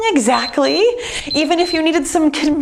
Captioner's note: timer beeps